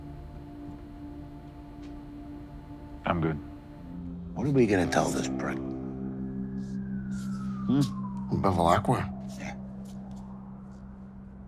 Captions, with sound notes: - I'm good. - What are we gonna tell this prick? (sirens wailing) Hm? - Who, Bevilaqua? - Yeah.